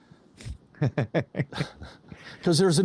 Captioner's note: laughing